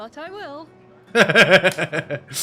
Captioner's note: laughing